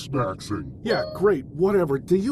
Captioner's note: Steam notification